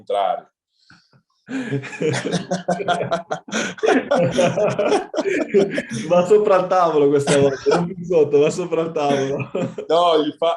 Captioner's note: laughs